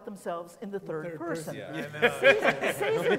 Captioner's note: laughing